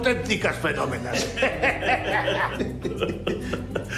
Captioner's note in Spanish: Risas